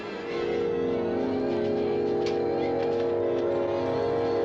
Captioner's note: distorted